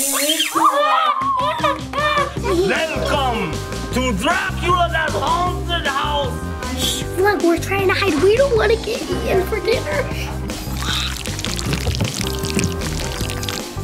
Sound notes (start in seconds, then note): 0.2 child screaming; 1.8 clapping